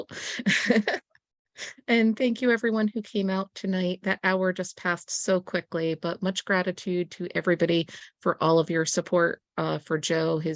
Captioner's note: laughter